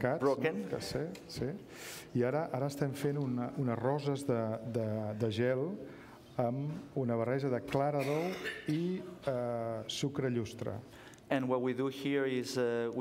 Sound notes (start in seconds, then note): 0.0 speaking catalan; 4.9 speaking catalan